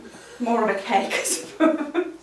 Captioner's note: laughs